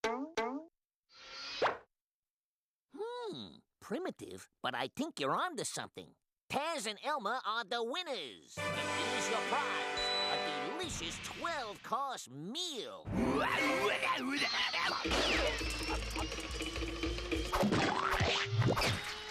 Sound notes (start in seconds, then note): 13.8 exclaiming